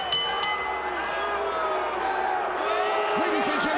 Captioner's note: crowd jeering